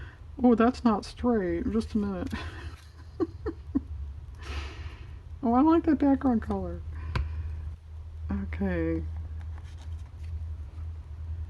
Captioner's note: laughs